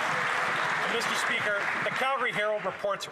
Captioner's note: cheers & Applause